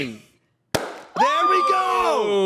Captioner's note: chip bag pops